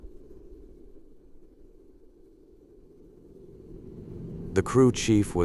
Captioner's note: wind gives way to shuttle room tone